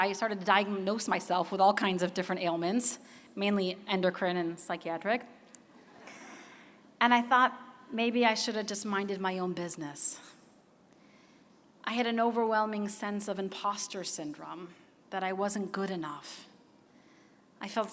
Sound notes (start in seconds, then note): 5.3 laughter